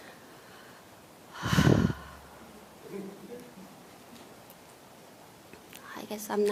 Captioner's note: questioner Sigh